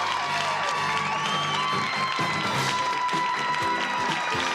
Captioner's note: screaming